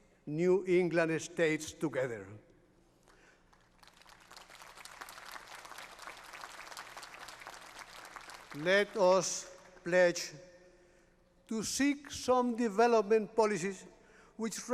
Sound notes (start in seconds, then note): 3.0 applause